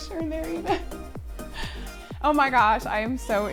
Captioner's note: laughs